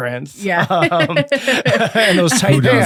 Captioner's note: laughing